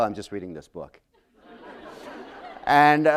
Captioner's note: laughter